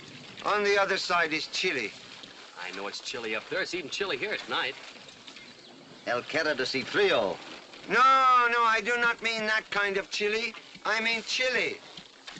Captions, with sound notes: On the other side is Chile. I know it's chilly up there, it's even chilly here at night. [ IN SPANISH ] He means cold. No, I do not mean that kind of chilly, I mean "Chile".